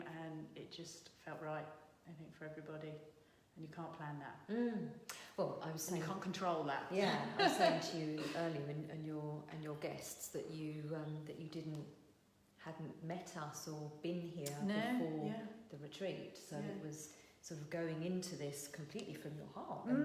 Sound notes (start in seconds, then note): 7.0 laughing